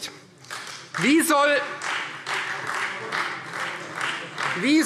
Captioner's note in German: Beifall Freie Demokraten - Unruhe - Glockenzeichen